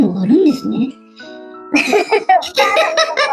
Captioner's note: laughs